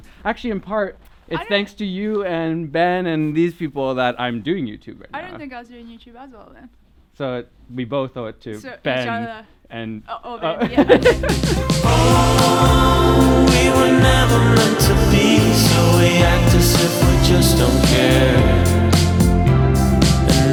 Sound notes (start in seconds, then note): 10.5 laughing; 12.3 upbeat music